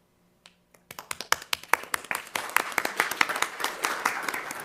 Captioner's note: crowd clapping